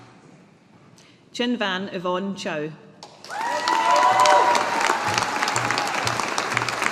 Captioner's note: audience applauding